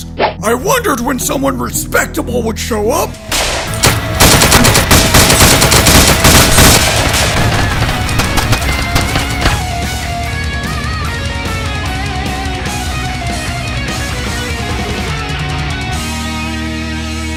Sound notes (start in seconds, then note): 3.3 many single gun shots; 3.3 single gun shot